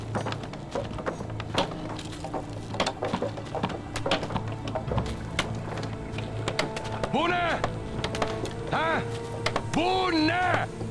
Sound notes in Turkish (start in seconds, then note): 0.0 Çekiç sesleri; 2.5 Kütük yontma sesleri